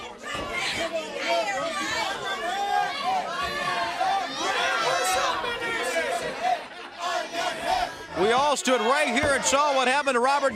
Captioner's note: crowd chattering